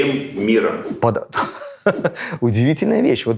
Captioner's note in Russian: смеётся